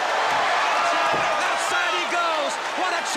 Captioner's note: crowd cheering